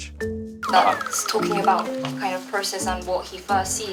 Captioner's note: switching to British accent